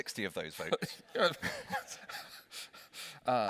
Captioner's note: laughs